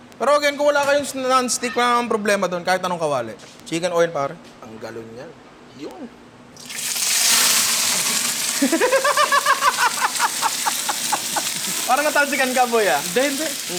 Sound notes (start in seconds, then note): 8.6 laughs